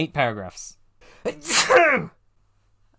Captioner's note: loud sneeze